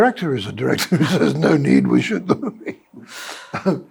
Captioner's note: laughs